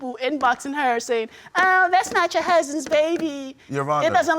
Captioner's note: imitating woman